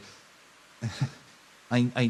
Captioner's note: nervous Laugh